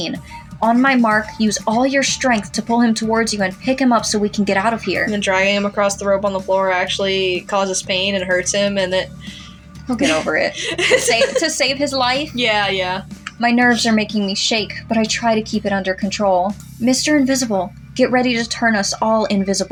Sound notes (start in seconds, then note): 9.9 laugh